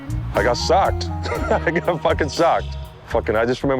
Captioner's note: laughs